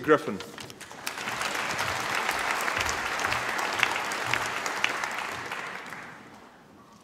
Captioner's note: applause